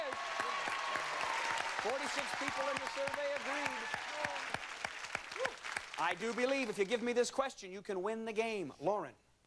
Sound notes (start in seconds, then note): 0.0 crowd cheers